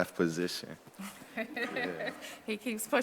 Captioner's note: chuckling